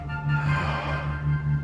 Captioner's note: sighs